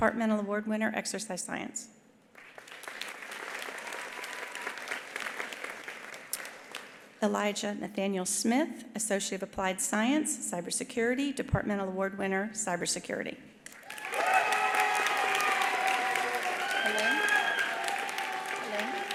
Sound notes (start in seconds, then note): 2.3 attendees applauding; 5.0 attendee cheering; 13.7 attendees applauding; 13.8 attendees cheering